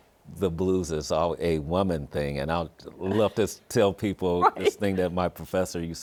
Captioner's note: laughs